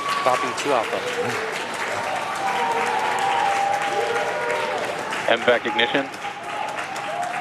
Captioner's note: cheering and Applause